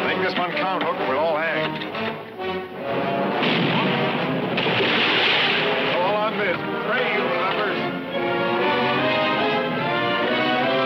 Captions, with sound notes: Make this one count, Hook, we'll all hang. (cannon firing) All on this. Pray, you lubbers.